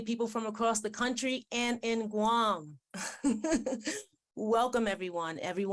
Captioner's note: laughs